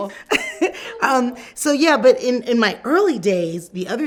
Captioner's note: laughs